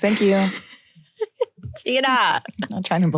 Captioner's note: chuckles